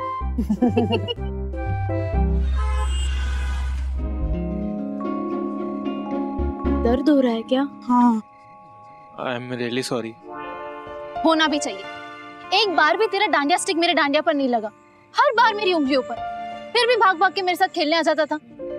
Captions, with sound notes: [laughing] [car honking] - Is it hurting? - Yes. I'm really sorry. You should be. Your Dandiya stick didn't hit mine even once. You were hitting my fingers every time. And still you'd come running to dance with me.